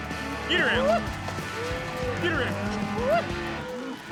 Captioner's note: yelping